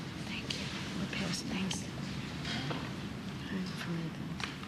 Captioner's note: whispering